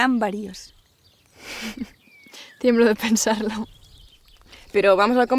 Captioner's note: sniffs